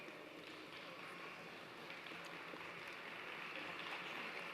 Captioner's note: applause